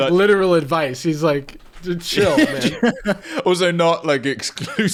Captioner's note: laughing